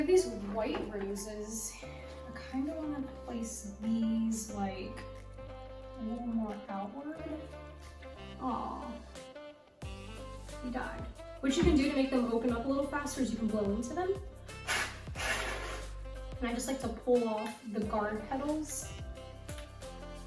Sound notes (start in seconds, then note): 14.5 blowing sound